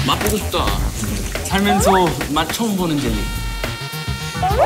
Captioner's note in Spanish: Medio emocionado